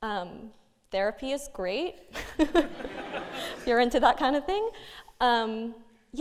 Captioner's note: laughing